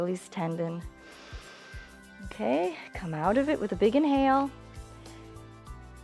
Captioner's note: inhales